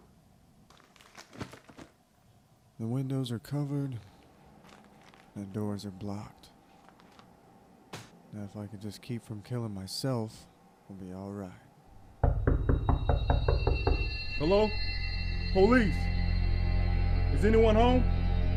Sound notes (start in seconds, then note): 12.2 knocking on the door; 18.3 ominous music